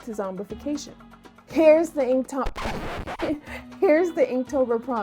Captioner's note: disk scratch